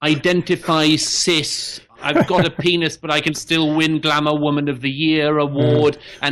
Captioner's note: Sam Harris laughs; Harris laughs